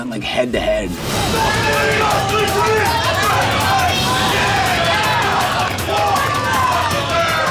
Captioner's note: dramatic music; group shouting